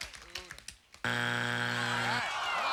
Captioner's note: buzzer